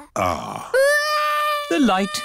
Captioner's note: crying